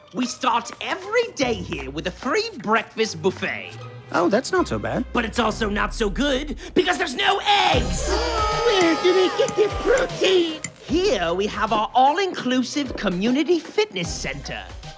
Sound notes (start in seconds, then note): 7.9 yelling